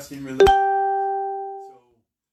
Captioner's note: phone alert